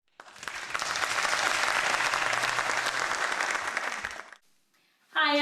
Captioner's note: applause